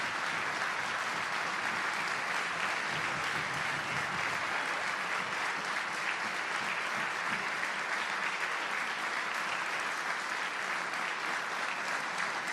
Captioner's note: applause